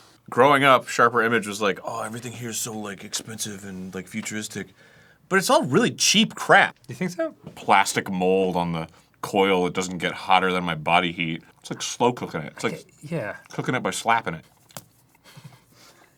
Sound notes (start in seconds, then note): 14.6 softest slap